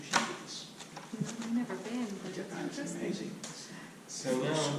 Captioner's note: chatting